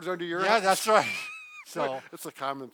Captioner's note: chuckles